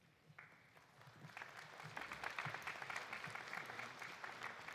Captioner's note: audience applauding